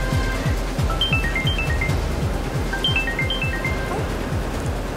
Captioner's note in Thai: เสียงโทรศัพท์